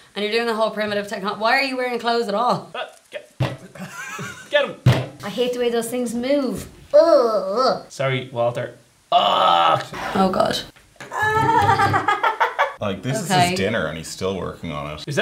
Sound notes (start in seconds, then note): 4.9 slams; 9.1 pained sound